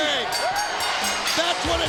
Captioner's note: bell rings